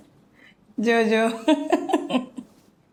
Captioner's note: laughs